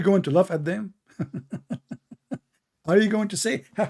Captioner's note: Ketawa